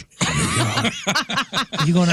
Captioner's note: laughing